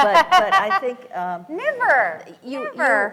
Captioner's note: laughs